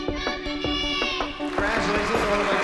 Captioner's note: cheers and applause